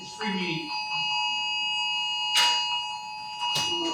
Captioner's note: bell rings